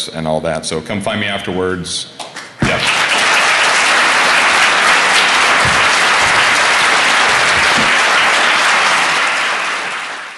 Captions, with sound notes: questions, there's my Twitter, e‑ mail, all that. Come find me afterwards. Yes. [Applause]